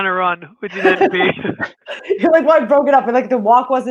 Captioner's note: laughs